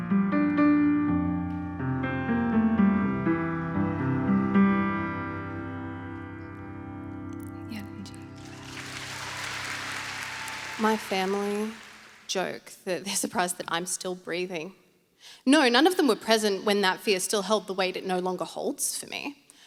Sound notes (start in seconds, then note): 0.0 soft piano music; 8.0 applause